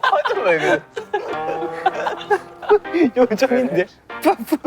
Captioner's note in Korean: 웃음 참지 못함